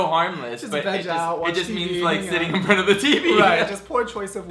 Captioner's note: chuckles